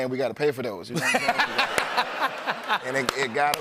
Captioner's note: laughter